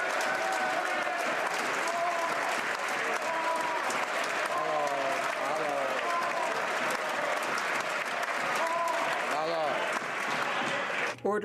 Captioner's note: some Applause